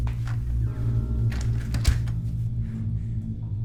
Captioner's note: gentle, menacing music; pattering footsteps; clatters; door creaks; gentle, menacing music